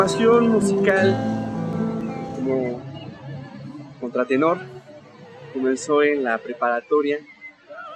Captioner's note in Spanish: Hablado